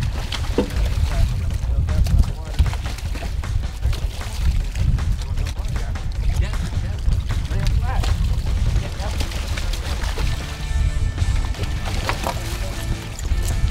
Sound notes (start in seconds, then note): 0.8 indistinct chatter in background; 0.8 water splashing